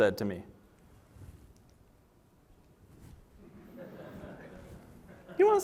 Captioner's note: laughter